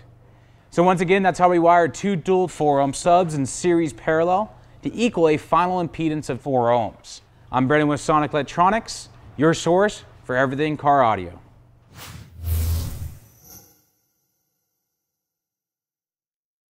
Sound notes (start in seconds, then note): 11.9 shoosh & buzz; 12.4 jingle